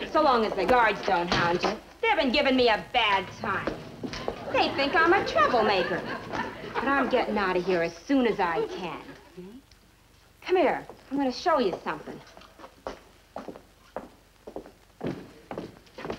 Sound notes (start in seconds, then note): 11.9 footsteps clack